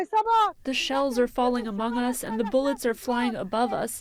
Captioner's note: through translator